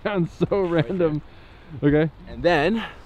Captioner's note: laughs